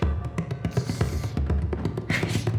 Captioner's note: sneezes